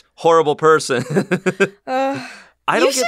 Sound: laughs

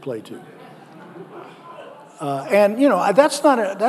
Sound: audience laughing

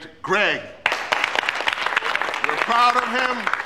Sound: applause

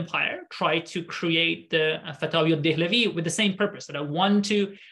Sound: speaking arabic

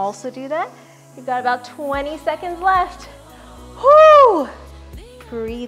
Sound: whooping

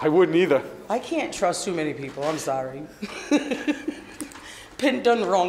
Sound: laughs

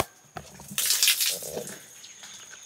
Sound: water Splashes

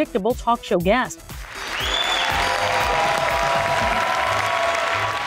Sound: audience cheers

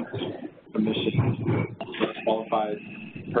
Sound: roaring static

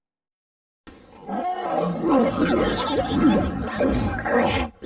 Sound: letters growling and grumbling like monsters

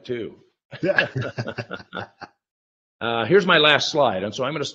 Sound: both laughing

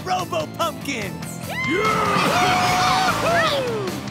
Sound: cheering

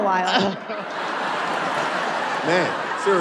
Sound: laughter

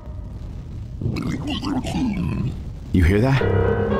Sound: unusual zombie gurgling noises

